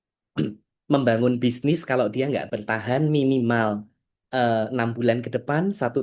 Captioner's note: berdehem